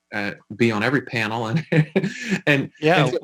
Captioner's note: laughing